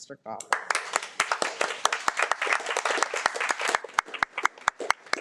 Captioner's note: audience applauding